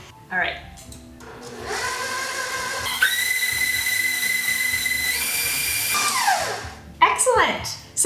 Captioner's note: blending